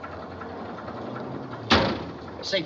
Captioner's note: car Door Closes